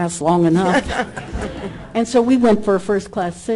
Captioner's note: audience laughter